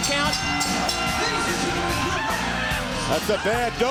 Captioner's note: bell ringing